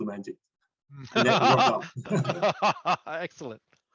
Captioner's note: laughs